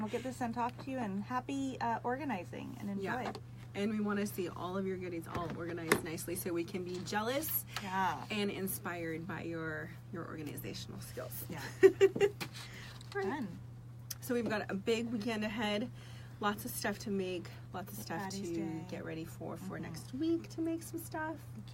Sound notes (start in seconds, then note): 11.5 laughs